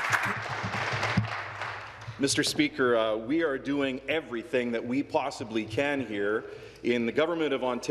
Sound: applause

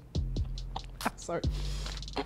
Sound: laughs

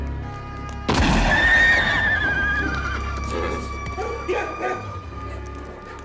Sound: gun firing; horse neighing

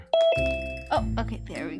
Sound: phone chimes

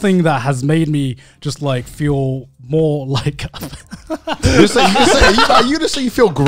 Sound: laughing

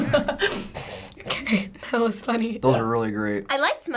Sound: laughter; snorting

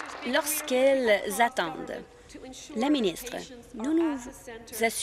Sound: applause

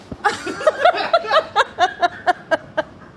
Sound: laughing

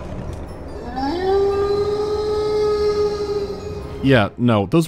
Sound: long wolf howl

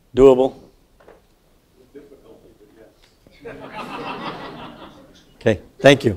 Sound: laugh

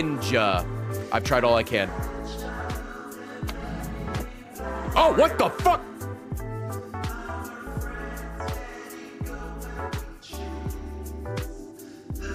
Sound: laughs

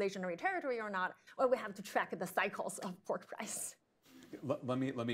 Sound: laughs

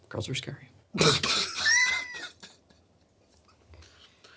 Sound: everyone laughs

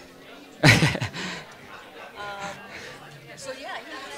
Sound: laughing

